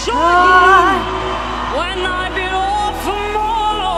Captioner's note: audience cheers